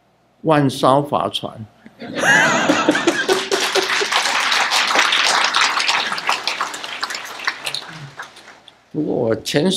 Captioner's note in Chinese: 眾鼓掌